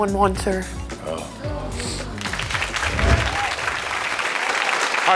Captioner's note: audience applauding